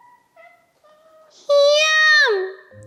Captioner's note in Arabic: صراخ عالي; تموء القطة بهدوء; صراخ عالي النبرة